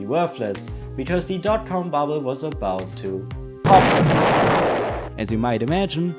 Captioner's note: explosion sound